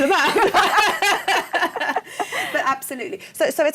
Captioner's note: laughter